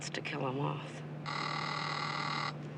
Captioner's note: phone ringing